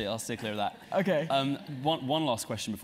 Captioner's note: laugh